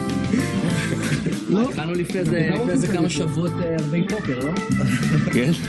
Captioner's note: laughing